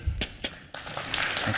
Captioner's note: applause